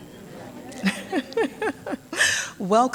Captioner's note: laughs